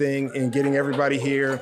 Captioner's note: audience cheering